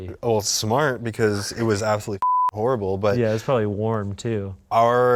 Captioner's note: beep